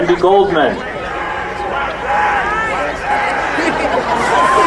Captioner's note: crowd cheering